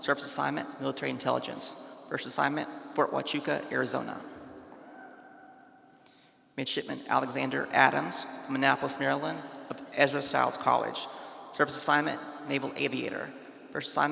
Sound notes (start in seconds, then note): 4.7 attendee whooping faintly